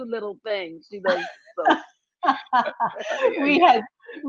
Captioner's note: laughing